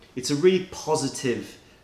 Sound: none

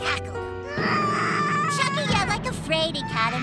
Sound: screaming

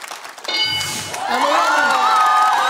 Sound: bell dings; cheering/applause

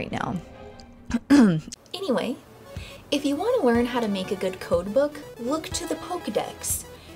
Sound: cough

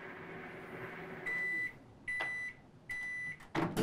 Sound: microwave sound; beeping

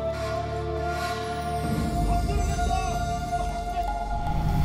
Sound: men shouting

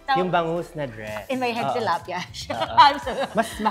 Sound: laughs

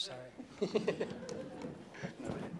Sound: laughter

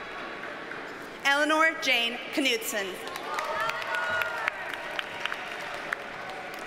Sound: audience cheers and applauds

